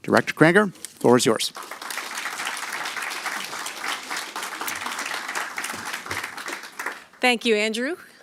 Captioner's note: applause